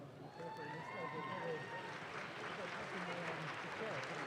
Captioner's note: audience claps